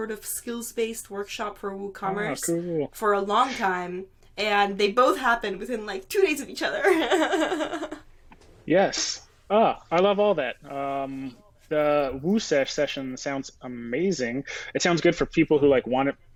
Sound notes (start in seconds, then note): 6.7 laughing